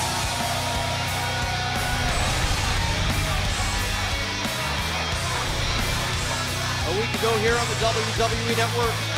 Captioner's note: cheers & applause